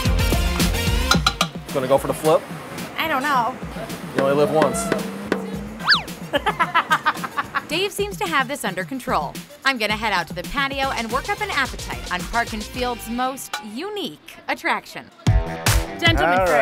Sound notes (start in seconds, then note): 0.0 festive music; 0.2 loud clanging; 4.2 comedic whooping; 5.7 laughs